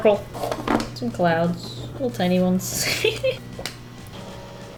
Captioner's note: laughs